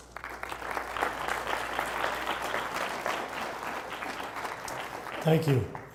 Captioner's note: applause